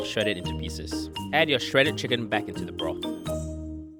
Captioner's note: voiceover